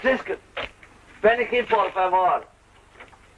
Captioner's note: Spanish spoken audio